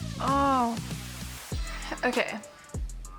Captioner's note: groaning